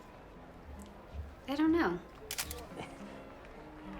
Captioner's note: camera clicks